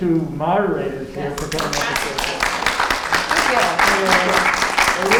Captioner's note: audience applauding